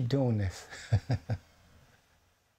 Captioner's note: laughing